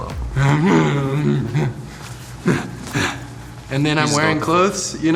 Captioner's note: grunting